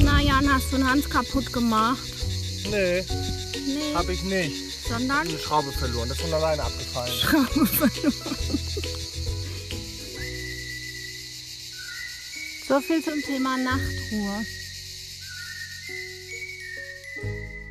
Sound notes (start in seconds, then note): 9.7 very loud chirping